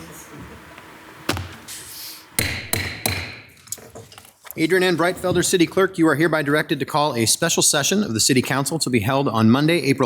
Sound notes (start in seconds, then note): 2.4 gavel banging